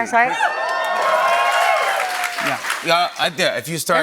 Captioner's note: cheers and applause